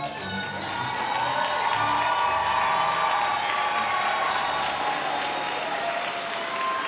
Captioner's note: audience cheering and applauding